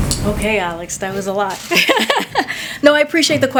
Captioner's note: laughs